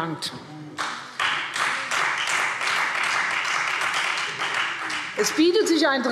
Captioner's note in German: Beifall Freie Demokraten